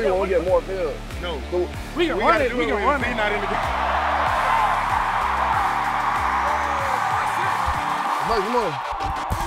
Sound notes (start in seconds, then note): 4.3 crowd cheers